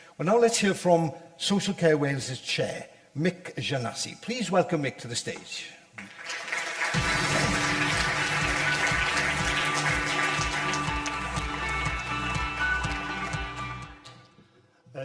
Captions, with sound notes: Well, now let's hear from Social Care Wales’s Chair, Mick Giannasi. Please welcome Mick to the stage. [Audience applause] [Upbeat music]